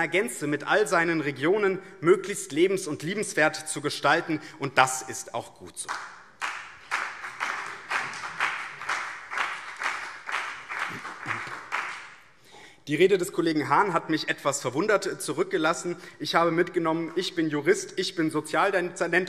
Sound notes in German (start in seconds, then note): 5.8 Beifall BÜNDNIS 90/DIE GRÜNEN und CDU